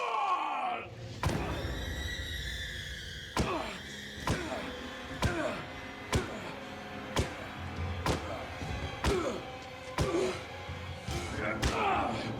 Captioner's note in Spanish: golpes muy fuertes, y exclamaciones al pegarle